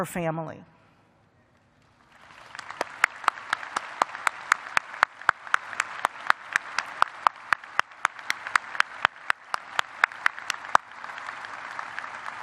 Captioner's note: applause